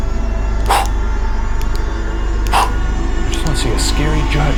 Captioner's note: exhaling sharply